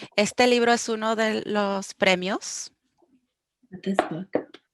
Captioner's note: speaking foreign language